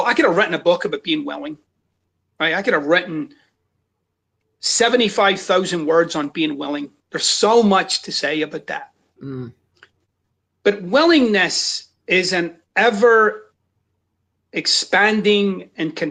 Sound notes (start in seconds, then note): none